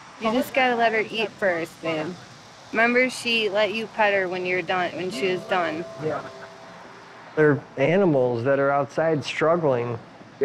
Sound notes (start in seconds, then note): none